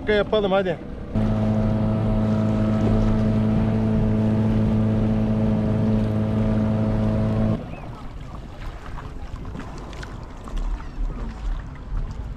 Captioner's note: engine sound